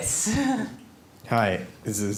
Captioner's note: laughs